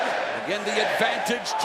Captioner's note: crowd cheering